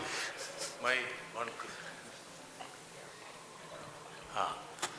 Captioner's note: laughs